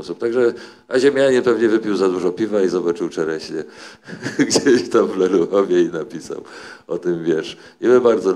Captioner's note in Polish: śmiech